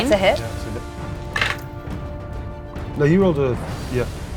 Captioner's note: dice rattling